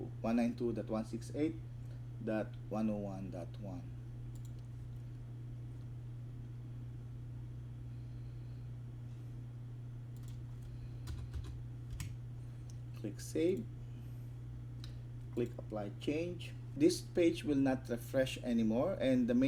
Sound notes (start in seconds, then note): 4.3 click; 4.5 typing